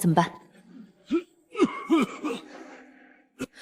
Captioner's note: cough, cough, cough